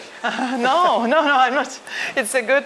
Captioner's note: chuckles